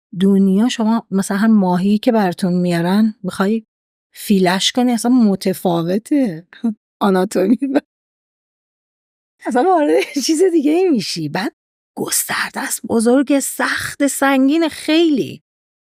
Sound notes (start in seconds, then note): 7.9 laughs